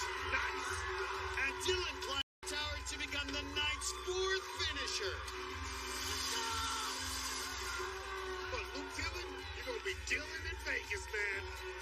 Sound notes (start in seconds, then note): 4.8 buzzer blares